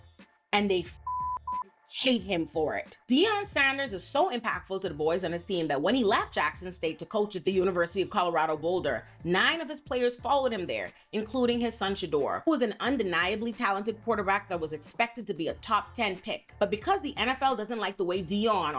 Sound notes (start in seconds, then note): 0.9 beep